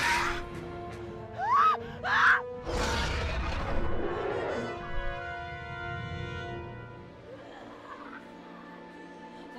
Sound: dinosaur roar; screaming; yelling

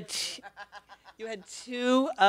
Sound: laughter

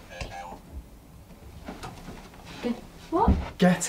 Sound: robot voice sounds

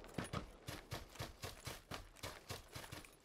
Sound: more running

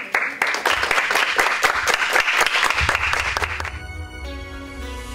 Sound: applause

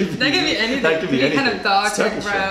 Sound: laughter

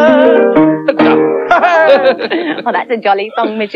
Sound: all Laugh

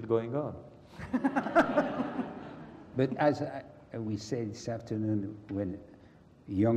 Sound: laugh

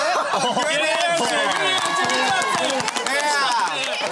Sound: laughter

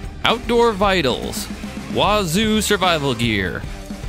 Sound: none

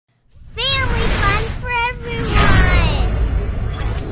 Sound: voiceover

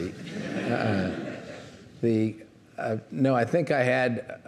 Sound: audience laughing

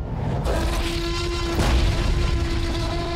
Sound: roaring

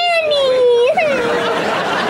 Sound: crying

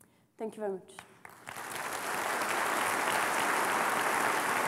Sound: applause

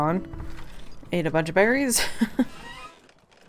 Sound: laughs

